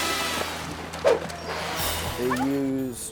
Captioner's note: dog bark bubbling underwater; zoom-in whips